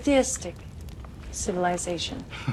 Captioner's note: father chuckles